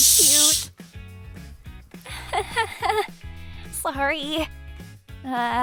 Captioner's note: nervous laugher